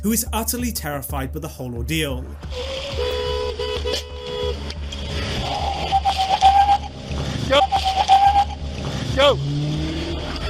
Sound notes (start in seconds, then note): 2.4 horn blasting; 5.3 car revving